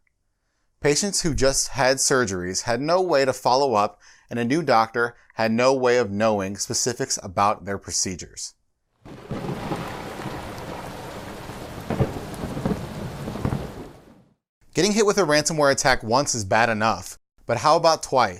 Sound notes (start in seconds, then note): 9.0 thunder